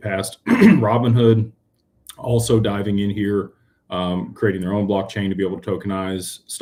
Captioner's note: clears throat